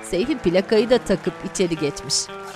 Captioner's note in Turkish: Alkış sesi